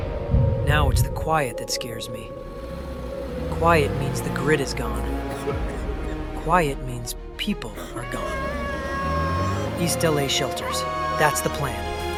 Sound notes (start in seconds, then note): 5.0 coughing; 7.7 girl crying